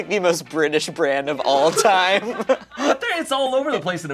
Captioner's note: laughs